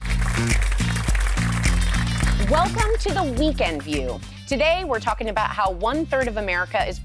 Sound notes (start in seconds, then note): 0.0 audience applauding